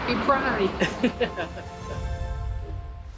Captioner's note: laughs